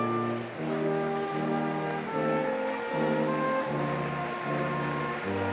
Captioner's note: applause